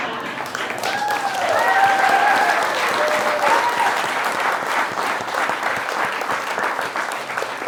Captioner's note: applause